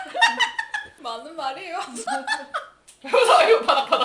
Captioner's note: laughing; laughing at him